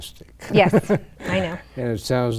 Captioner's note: laughs